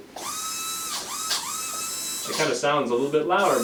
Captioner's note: brush whirring